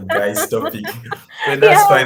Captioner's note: laughs